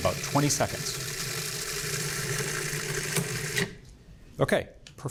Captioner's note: processor whirring